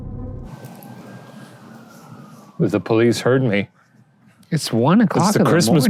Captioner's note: police sirens